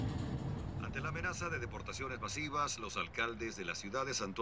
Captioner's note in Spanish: Voz en la TV